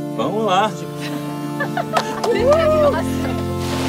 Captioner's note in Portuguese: risadas